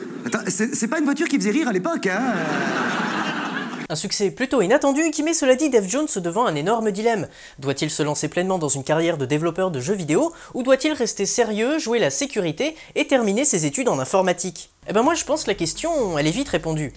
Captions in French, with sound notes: "C'est pas une voiture qui faisait rire à l'époque hein !" [Rires de la salle] Un succès plutôt inattendu, qui met cela dit Dave Jones devant un énorme dilemme. Doit-il se lancer pleinement dans une carrière de développeur de jeux vidéo ou doit-il rester sérieux, jouer la sécurité et terminer ses études en informatique ? Eh ben moi je pense la question, elle est vite répondue.